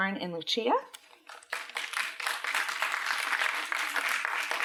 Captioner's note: applause